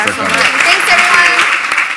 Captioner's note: applause